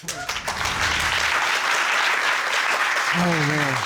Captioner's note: audience applauding